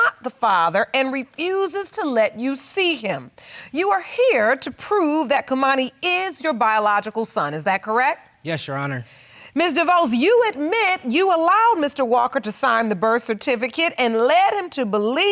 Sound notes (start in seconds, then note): none